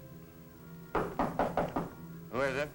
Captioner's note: knocking